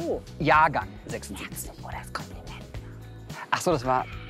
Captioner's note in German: flüstert